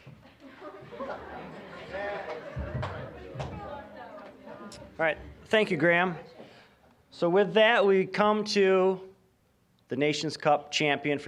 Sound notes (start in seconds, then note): 0.1 audience chuckling; 0.1 general chatter